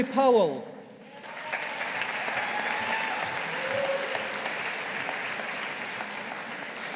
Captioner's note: audience applauding